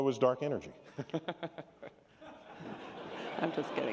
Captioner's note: laughter